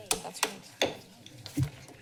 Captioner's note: bangs gavel